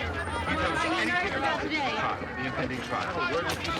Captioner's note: overlapping chatter